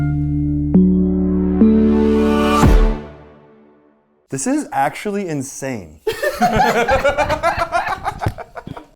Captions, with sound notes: (dramatic logo music) - This is actually insane. (people laughing)